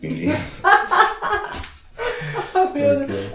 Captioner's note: laughter